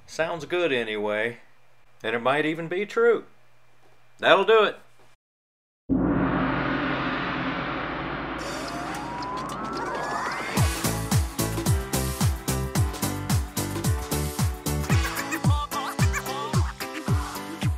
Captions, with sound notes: Sounds good anyway and it might even be true. That'll do it! (gong plays) (upbeat music)